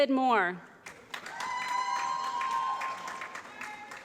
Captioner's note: applause